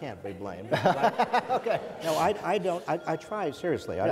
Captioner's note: laughs